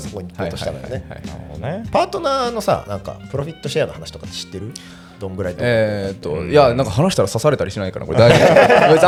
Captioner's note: laughs